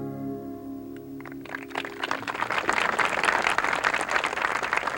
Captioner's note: audience applauds